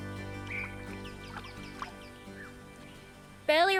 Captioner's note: birds chirp